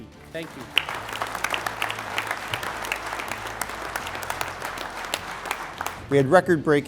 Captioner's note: applause